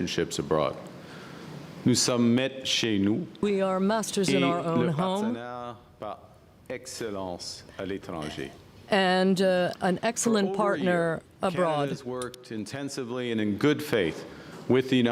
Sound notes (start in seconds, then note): 6.5 speaking french